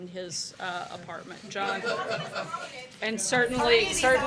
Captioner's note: laughter